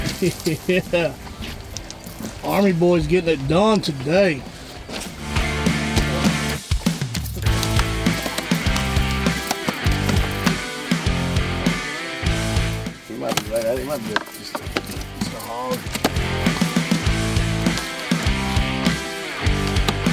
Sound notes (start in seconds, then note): 0.0 water splashing; 0.0 laughs; 5.2 rock music resumes; 8.1 fish slapping; 10.5 rock music continues; 16.9 rock music resumes